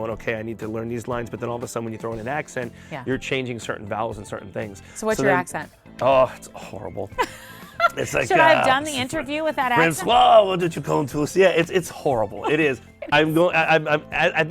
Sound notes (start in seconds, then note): 10.7 french